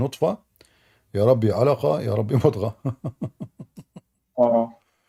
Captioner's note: Ketawa